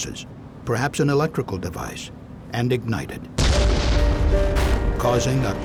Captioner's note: sound of explosion